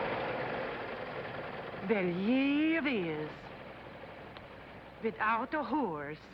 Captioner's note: foreign accent